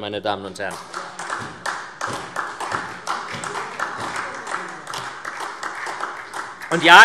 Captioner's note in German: Beifall SPD